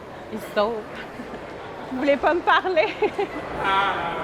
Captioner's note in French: rires